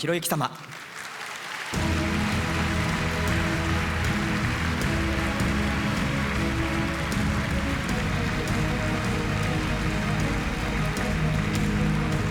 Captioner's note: applause